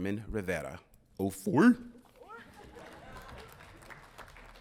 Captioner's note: mumbles; audience applauding